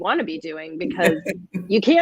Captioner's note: laughter